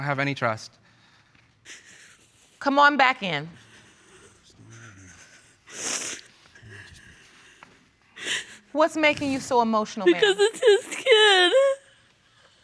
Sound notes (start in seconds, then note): 3.7 sobbing; 6.3 sniffles